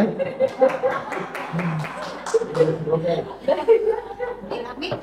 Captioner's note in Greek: χειροκρότημα